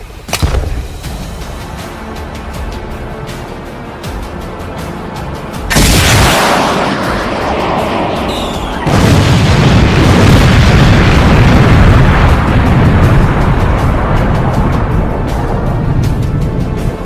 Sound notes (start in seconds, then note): 0.3 bazooka firing; 9.5 bomb exploding